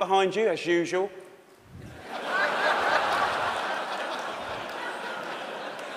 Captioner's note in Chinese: 笑聲